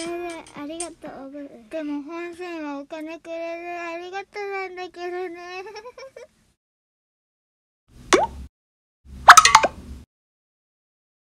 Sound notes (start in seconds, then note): 6.2 sound effects